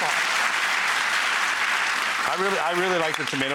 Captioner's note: audience clapping